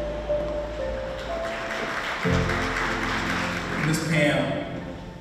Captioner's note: attendees clapping